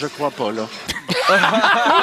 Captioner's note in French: éclats de rire